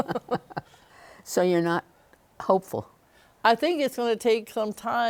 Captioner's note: laughs